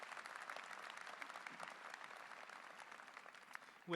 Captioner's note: applause